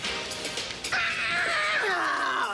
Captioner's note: screams